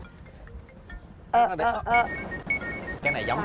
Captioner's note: quest notification